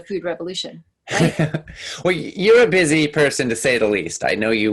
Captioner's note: laughing